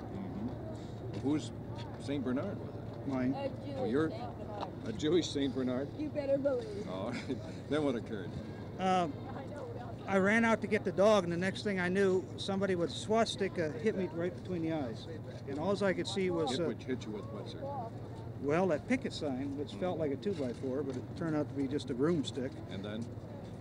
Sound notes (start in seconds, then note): 7.0 chuckles